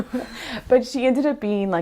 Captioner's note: laughs